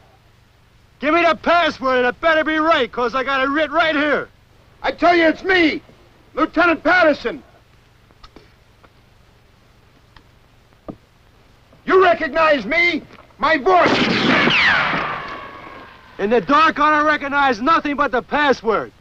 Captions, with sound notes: - Give me the password and it better be right, because I got it written right here. - I tell you it's me, Lieutenant Patterson. You recognize me? My voice? [gunshots] - In the dark I don't recognize nothing but the password.